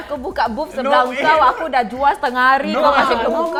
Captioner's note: defensive